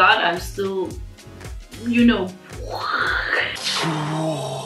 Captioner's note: sound effects